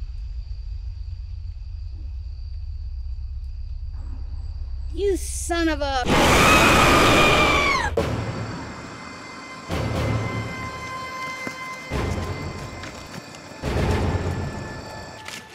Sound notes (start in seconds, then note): 6.0 terrifying roar; 6.0 Officer Miller screams; 7.9 scary music